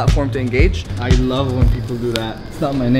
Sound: sarcasm

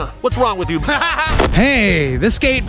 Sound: laughing

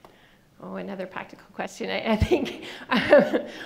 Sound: laughing

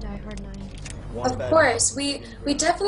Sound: people chattering

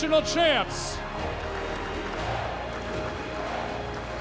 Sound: cheers and applause; crowd chanting

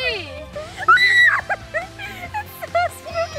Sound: screams

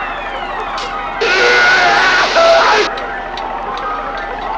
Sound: Philby screaming

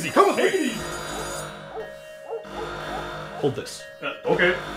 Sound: alarm blaring

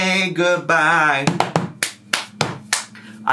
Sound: claps

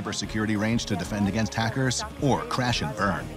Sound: women conversing quietly

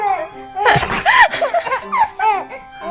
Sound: sneezing

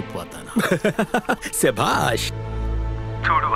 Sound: laughs

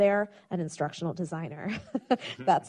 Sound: chuckles

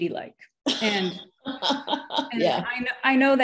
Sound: laughs

